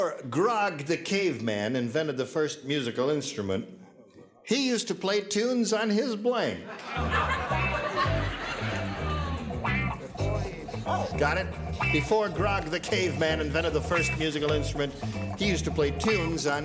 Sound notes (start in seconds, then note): 6.6 laughter and groaning